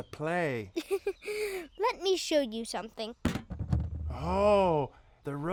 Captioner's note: laughing